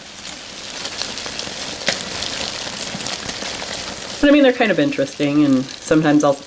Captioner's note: skittering